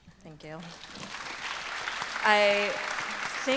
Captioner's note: audience applause